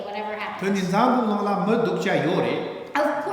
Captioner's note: speaking tibetan